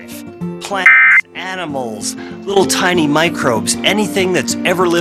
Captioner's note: alert Tones Beeping